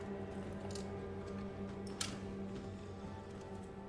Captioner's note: suspenseful horror music; footsteps